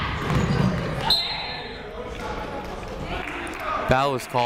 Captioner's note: whistle blows